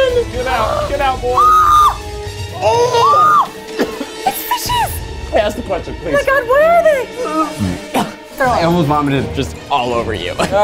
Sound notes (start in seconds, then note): 1.3 lady screaming; 2.6 screams; 3.6 man coughing; 7.6 man coughing